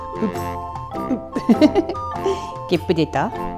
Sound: laughs

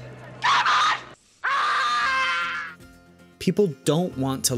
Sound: screaming

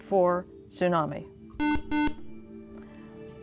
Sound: buzz

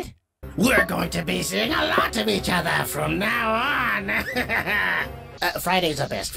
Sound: laughs

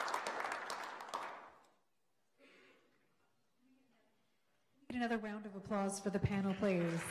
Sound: clapping

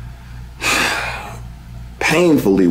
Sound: Drew sighs

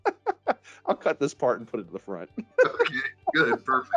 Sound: laughing; laughs

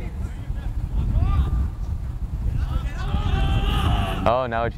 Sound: players talking and yelling

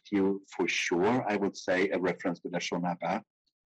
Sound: speaking in foreign language

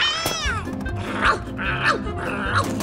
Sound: barking continues

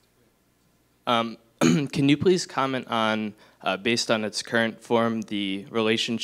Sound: cough

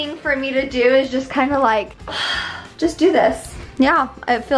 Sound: sighs

